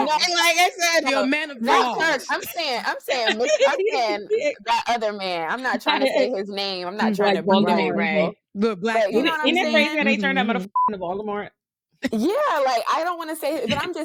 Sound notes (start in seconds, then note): 10.7 beep